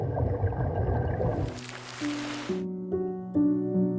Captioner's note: water splashes; soft piano music